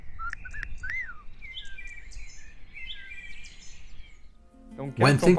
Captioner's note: birds chirping and whistling